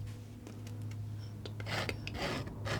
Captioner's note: scratching